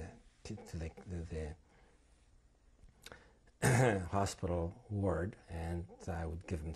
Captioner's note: clears throat